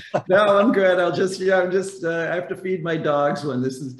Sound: laughing

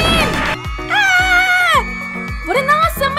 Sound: screams

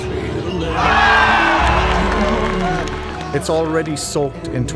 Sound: crowd cheering

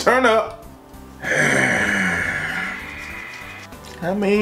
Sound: low grunt

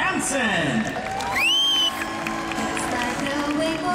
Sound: crowd cheering

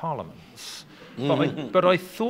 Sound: laughing

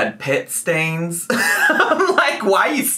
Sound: laughing

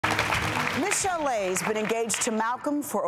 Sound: applause

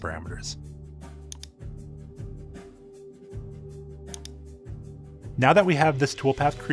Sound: lively music; mouse clicking

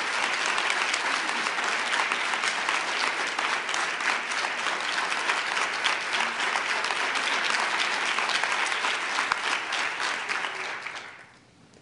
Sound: applause

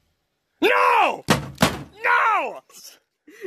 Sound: bangs head on wall again

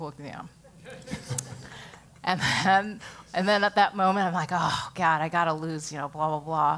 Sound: laugh

